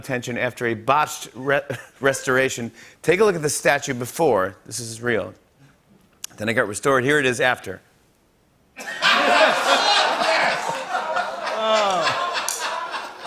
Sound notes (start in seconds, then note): 8.8 laughter